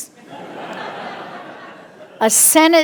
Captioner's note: audience laughing